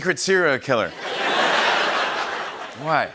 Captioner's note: laughter